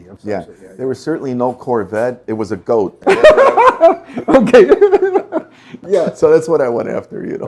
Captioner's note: risas